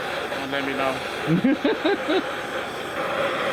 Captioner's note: laughing